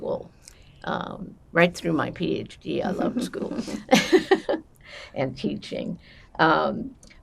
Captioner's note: laughing